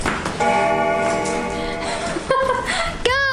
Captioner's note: bell Ringing